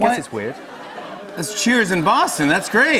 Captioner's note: audience cheers